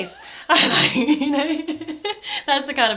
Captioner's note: both laugh